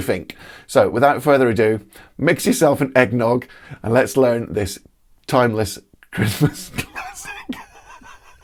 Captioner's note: laughs